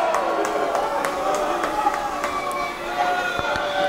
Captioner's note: crowd booing